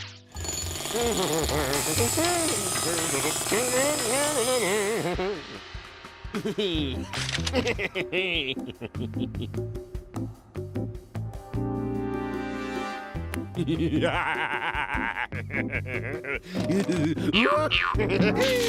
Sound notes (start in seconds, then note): 0.9 humming; 7.3 sinister laugh